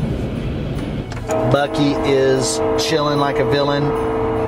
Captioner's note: train still blowing its horn